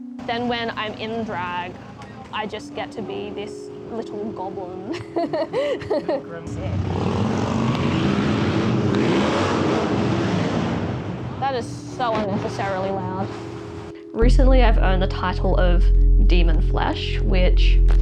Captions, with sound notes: Then when I'm in drag I just get to be this little goblin. (loud motorbike drives by) That is so unnecessarily loud. Recently I've earned the title of "demon flesh", which